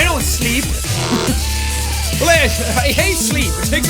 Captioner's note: laughs